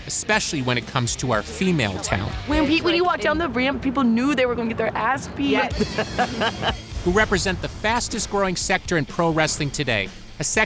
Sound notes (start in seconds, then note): 5.5 laughs